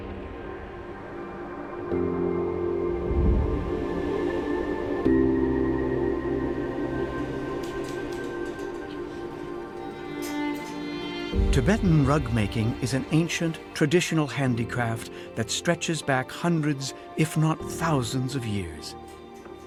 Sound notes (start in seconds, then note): 0.2 somber emotive music; 2.8 air whooshing; 5.4 somber emotive music